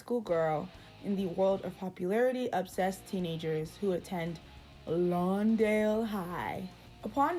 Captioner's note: Angela Li voice